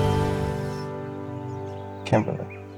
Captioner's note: birds chirping